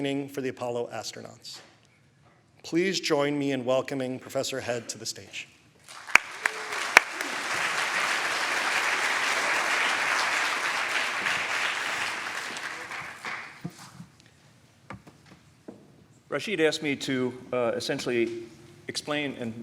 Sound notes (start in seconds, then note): 5.8 applause